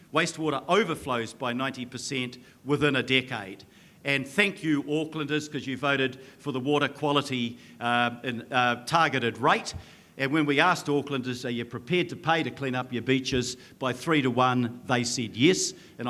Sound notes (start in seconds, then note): none